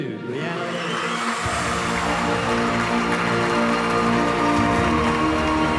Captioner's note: audience applauding and whooping